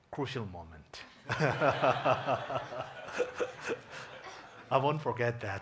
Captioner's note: audience laughing